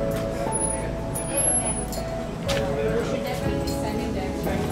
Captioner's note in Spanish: Charla de fondo